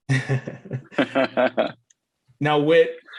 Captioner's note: both chuckling